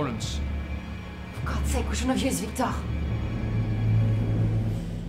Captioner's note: speaks in French